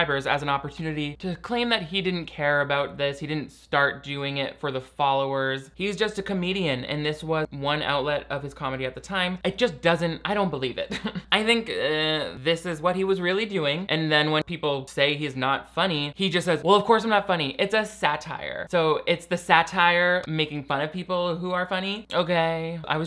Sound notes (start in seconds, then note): 10.8 chuckles